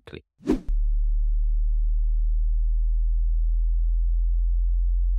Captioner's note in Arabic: قعقعة نغمة منخفضة